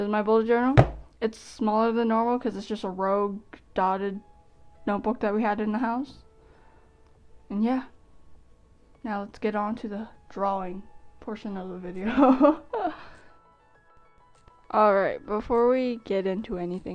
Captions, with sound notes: this is my bullet journal. It's smaller than normal because it's just a rogue dotted notebook that we had in the house. And yeah. Now let's get on to the drawing portion of the video. *laugh* All right, before we get into anything,